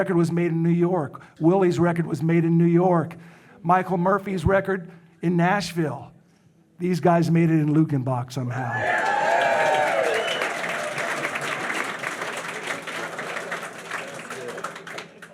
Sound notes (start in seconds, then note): 8.6 audience cheering; 8.8 audience applauding